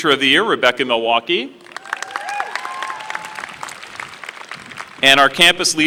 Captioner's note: applause